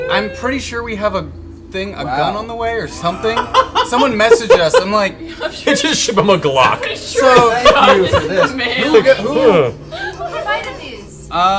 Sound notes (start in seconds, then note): 6.0 laughs; 7.3 laughter